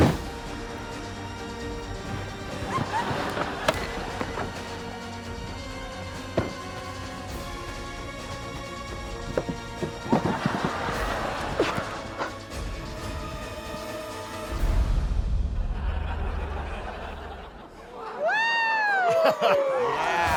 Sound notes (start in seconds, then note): 11.5 grunts, chuckles; 14.7 music fades; 17.9 cheers, applause